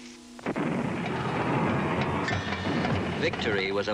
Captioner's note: heavy artillery blasting